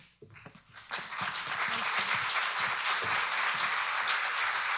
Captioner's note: audience applauding